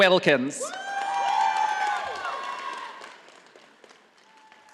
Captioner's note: audience applauding